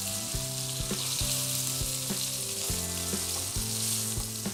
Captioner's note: beef sizzles